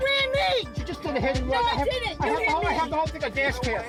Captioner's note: indistinct chatter